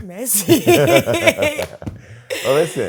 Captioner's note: laughter